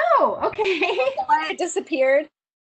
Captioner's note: laughs